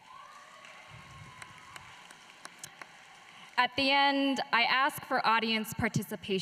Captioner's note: applause